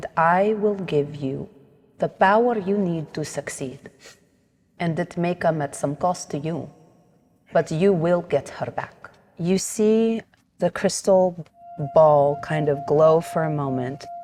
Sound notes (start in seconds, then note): none